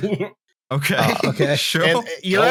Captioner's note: laughing; laughs; laughter